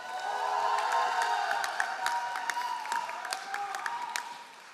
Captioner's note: all applauding